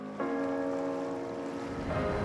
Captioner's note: water gently flowing